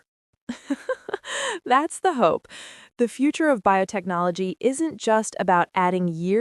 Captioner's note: laughs